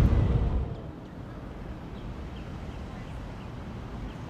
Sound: birds chirping

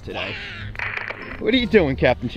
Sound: roaring

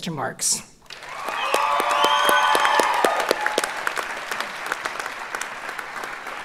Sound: audience cheers and applauds

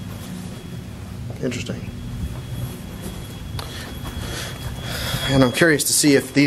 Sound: elevator door nudging tone

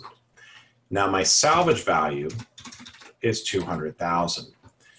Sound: typing

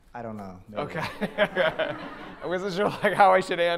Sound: laughs

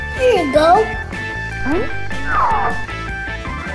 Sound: sliding noise

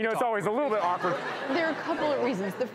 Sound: audience laughing

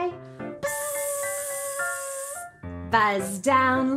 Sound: buzzing

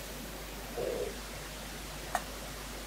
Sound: croak noise

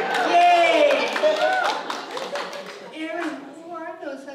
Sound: applause

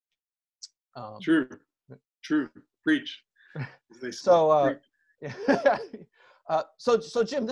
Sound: laughs

